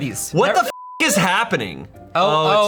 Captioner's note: beep